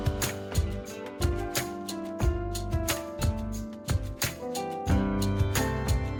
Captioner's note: keyboard